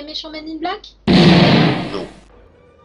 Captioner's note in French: boum